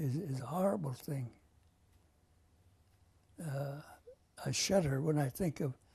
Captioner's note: pauses for 3 seconds